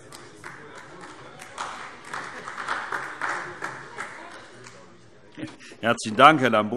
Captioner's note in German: Beifall AfD